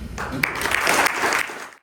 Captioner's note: applause